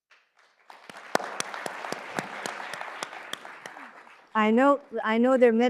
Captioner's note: audience applauds